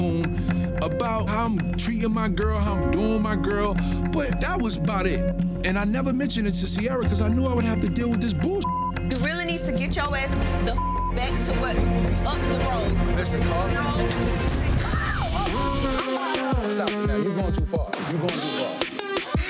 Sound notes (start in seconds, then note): 8.6 beep; 10.6 beep; 14.8 screams